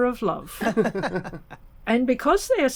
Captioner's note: laughter